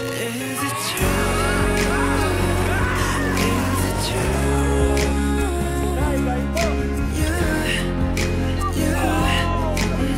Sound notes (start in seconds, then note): 2.7 screams; 9.0 shouts